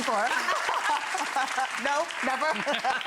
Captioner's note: all laughing; audience applauding